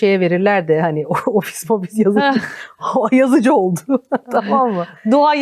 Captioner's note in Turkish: kahkaha